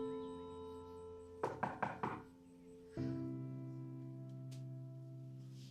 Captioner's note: knocking at door